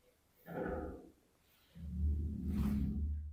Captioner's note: deep growl-like sound